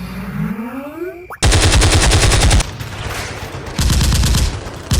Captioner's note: guns firing